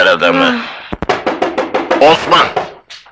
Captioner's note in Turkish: Kapı çalınıyor